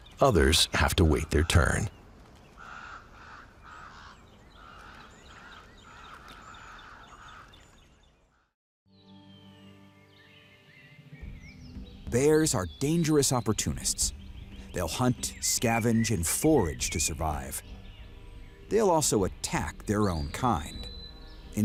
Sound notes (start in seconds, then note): 4.7 birdsong